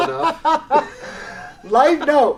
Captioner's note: laughs